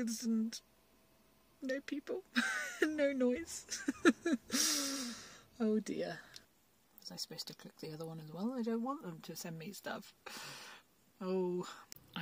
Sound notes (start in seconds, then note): 3.5 laughs